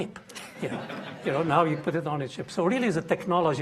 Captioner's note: audience laughing